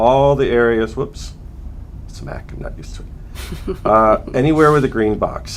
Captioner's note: laughter